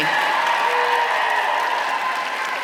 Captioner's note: applause